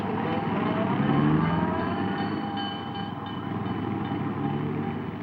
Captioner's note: car engine roaring